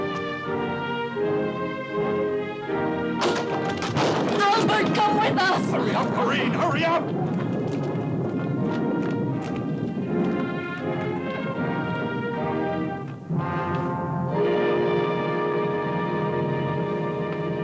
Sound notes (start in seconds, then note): 3.2 door opens; 8.2 thunder rumbling